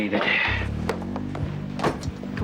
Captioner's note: Nash sighing